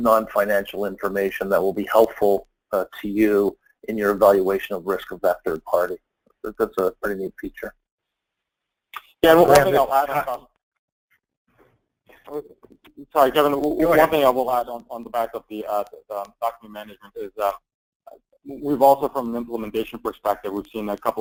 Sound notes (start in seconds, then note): 9.2 murmuring